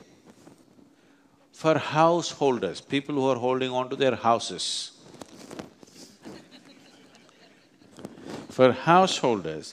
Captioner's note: few laugh